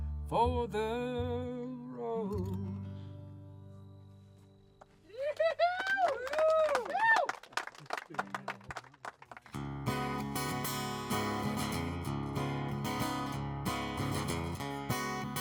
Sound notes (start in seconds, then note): 3.5 song ends, clapping, cheering; 9.5 guitar strumming